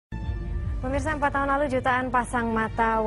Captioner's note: non-english speech